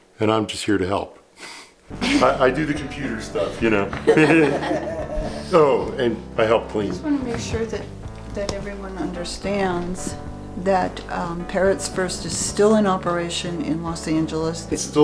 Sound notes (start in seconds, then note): 2.0 chuckles softly; 4.0 laughs loudly